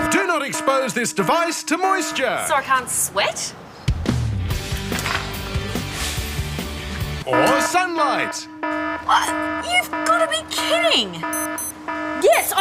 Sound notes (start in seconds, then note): 0.0 alarm blares; 7.2 alarm blares